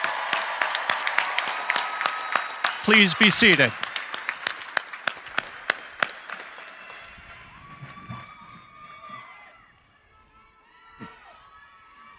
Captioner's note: cheering and applause